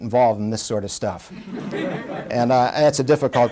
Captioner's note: laughter